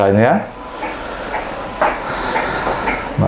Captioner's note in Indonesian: suara mesin printer